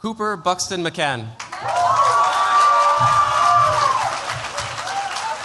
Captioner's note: cheers, applause